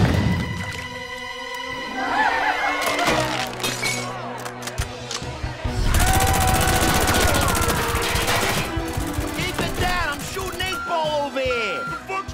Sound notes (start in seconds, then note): 1.7 goons cheering; 5.9 goon screm